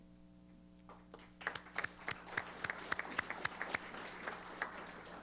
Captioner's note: applause